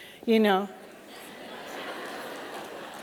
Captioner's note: laughter